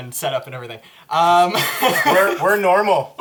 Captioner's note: all laugh